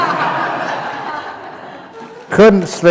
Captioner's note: laughter